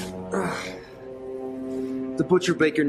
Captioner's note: he grunts